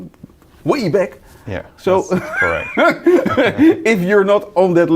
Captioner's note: laughing